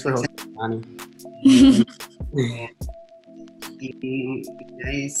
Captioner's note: laughs